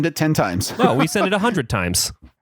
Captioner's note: laughs